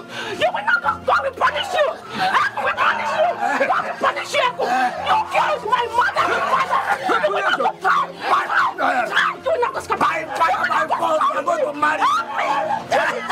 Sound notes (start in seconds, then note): 7.4 all shouting; 13.1 Ekong laughing